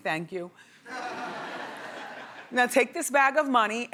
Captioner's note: audience laughs